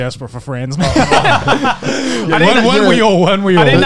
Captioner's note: laughing